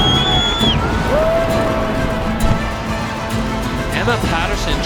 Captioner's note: crowd cheering